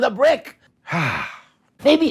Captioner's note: Mikey sighs